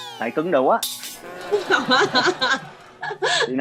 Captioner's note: laughing